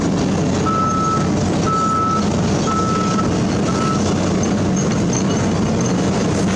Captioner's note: engine Rev